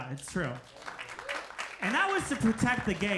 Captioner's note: audience applauding